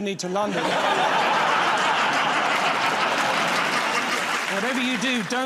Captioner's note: laughter